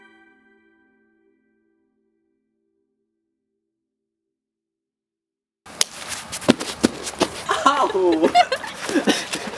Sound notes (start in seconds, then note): 5.7 loud slap; 7.4 laughs